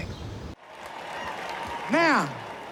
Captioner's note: cheers and applause